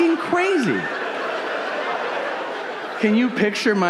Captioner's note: audience laughing